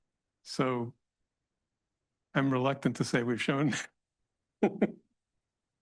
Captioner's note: laughs